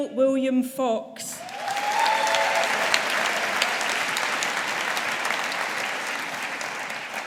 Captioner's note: audience applauding